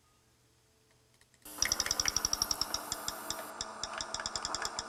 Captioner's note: high-pitched rapid clicking sound; clicking varies in speed